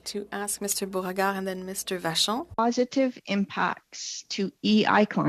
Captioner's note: speaking French